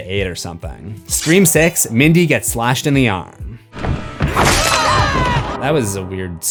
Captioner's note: screams